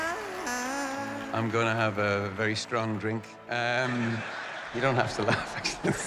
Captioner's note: crowd chuckling